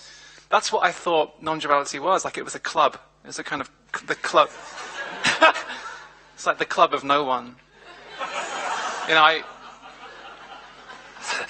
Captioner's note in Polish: śmiech